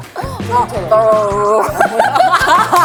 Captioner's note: automatic gargling